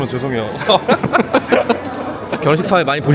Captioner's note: chuckles